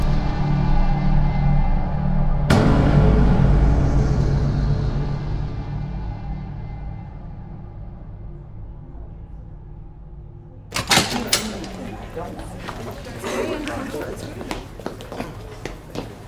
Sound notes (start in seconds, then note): 10.7 door latch clicking